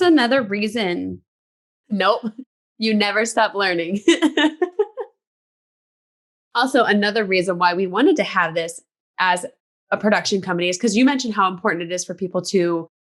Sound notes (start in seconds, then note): 4.1 laughing